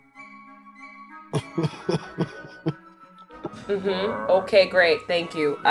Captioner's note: chuckling